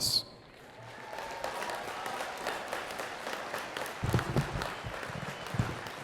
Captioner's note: attendees cheering and clapping